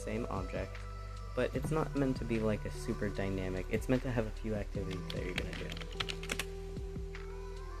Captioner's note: typing loudly